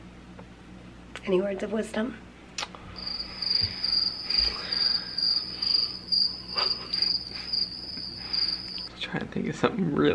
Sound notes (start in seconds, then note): 2.8 crickets chirping